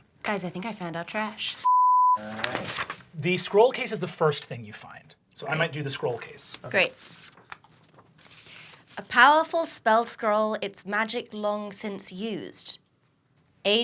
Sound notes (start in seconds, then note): 1.6 beeping